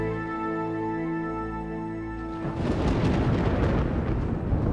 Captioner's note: thunder rumbling